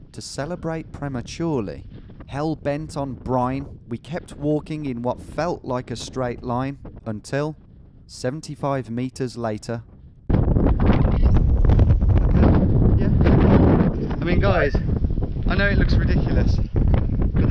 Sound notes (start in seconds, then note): 10.3 wind rustling